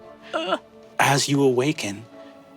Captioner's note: groans